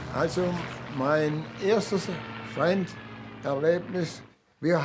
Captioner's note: speaking German